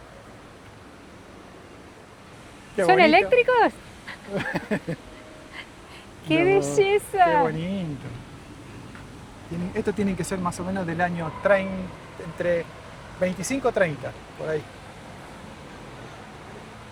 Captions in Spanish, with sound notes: ¿Son eléctricos? [risas] Qué belleza. Qué bonito. Estos tienen que ser más o menos del año... entre 25 o 30, por ahí.